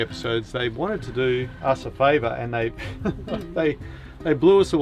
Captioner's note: laughs